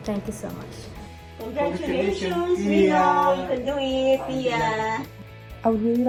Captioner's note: speaking in a foreign language